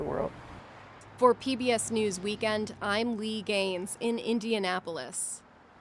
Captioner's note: voice-over